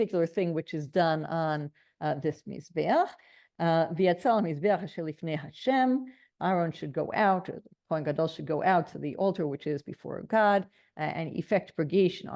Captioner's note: Hebrew